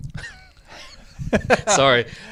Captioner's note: both laugh